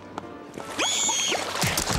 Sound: shrieking

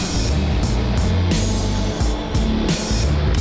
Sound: none

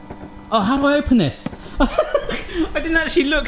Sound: laughs

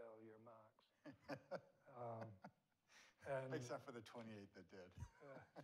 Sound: laughing

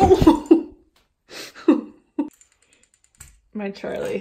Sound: cat falling

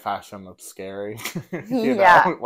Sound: laugh

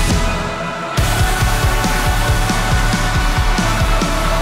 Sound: crowd

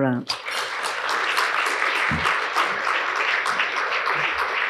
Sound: applause

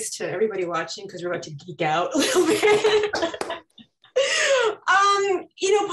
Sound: laughing

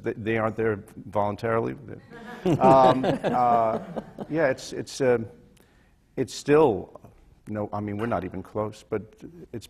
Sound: laughter

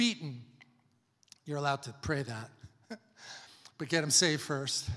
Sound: chuckles

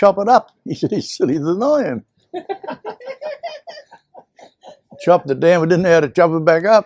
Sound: laughter

